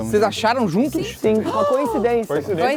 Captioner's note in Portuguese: som de surpresa